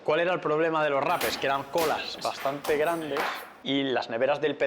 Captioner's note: sound of the knife striking the anglerfish tail